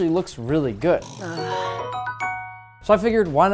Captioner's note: game reward sound effect